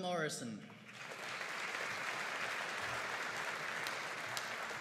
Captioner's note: audience applauding